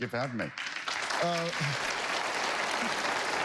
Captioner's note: applause